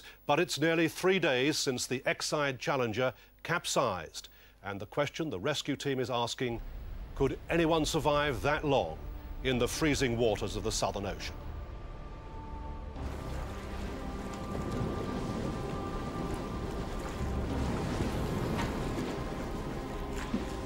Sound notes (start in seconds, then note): 13.2 brooding music; 15.7 water sploshing